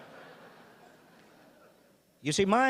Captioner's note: audience laughing